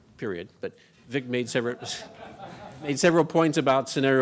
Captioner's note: audience laughing